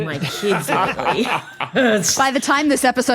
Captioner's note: group laughing